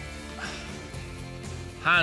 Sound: sighs

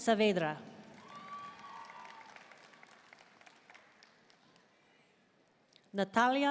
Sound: audience cheering and applauding

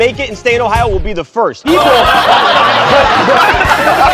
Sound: laughter

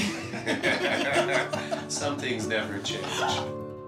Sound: laughing

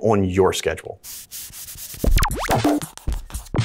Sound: chalkboard eraser swiping; upbeat techno music

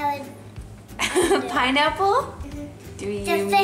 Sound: laughs

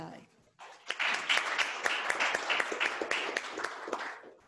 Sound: audience clapping

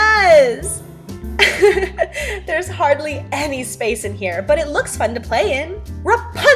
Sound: giggle

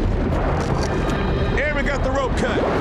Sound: urgent music; scissors scraping

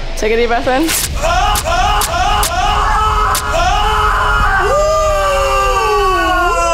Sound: screams

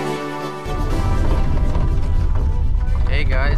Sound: rattling

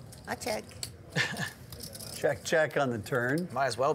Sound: chuckling

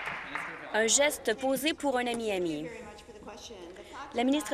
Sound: applause

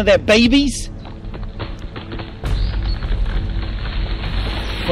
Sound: tree falling

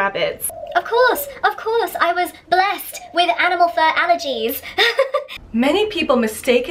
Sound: laughing

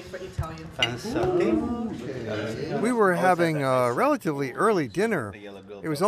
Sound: people speaking

